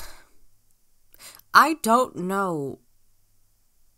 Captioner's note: sharply breathes in